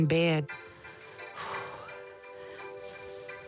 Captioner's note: exhales; sighs